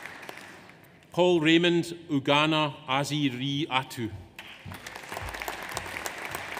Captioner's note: audience applauds